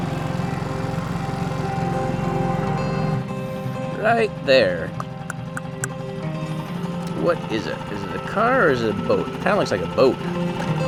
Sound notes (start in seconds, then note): 0.1 bell chimes; 2.5 light music; 4.9 clicking